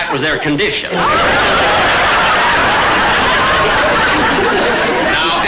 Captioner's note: audience laughter